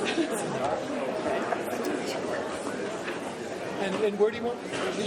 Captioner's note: crowd chatter; laughing